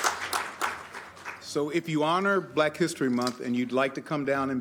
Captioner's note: applause